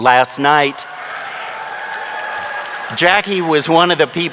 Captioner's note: audience cheering